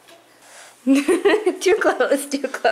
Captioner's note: laughs